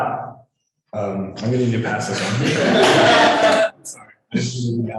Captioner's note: laughing